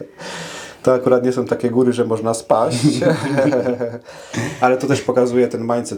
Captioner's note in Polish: śmiech